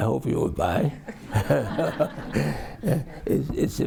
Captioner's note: all laugh